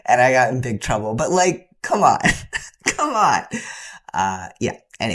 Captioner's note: laughter